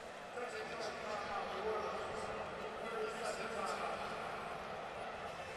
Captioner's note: pa announcement